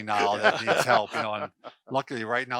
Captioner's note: laughter